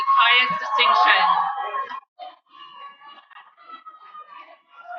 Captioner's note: cheering